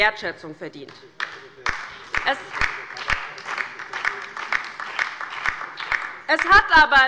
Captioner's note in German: Beifall bei der LINKEN und dem BÜNDNIS 90/DIE GRÜNEN